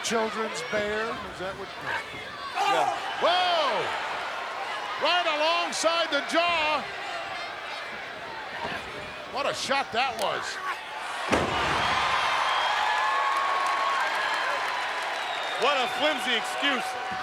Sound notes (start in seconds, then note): 11.6 crowd cheering